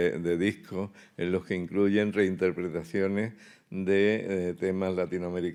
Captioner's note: speaking in Spanish